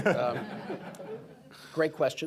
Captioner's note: laughter